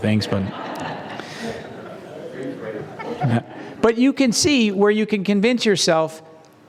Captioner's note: laugh